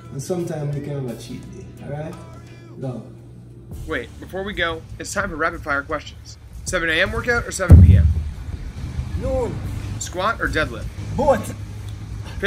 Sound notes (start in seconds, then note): 7.6 tire banging